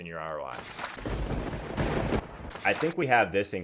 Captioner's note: lightning striking